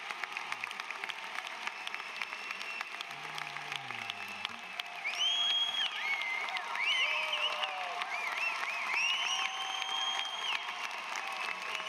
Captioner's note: applause